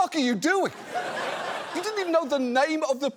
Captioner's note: audience laughs